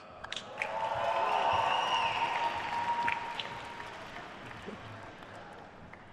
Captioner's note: attendees cheering and applauding